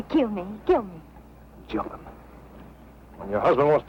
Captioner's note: whispering